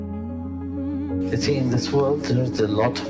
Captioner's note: voiceover